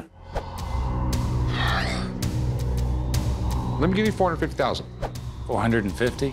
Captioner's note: sighs